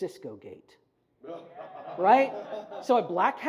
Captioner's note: audience murmurs and chuckles